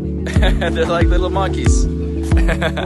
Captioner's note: laughs